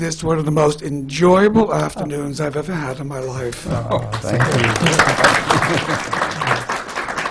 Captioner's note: applause